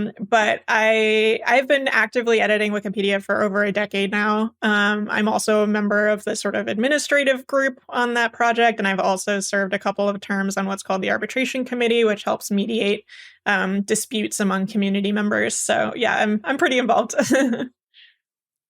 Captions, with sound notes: But I’ve been actively editing Wikipedia for over a decade now. I’m also a member of the, sort of, administrative group on that project, and I’ve also served a couple of terms on what’s called the arbitration committee, which helps mediate disputes among community members. So yeah, I’m pretty involved. [laugh]